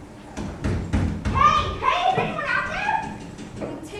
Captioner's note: bangs on door